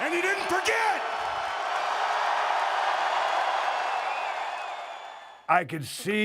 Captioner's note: applause